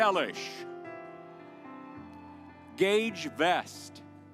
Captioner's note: audience applauds